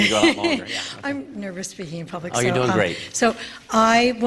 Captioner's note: laughter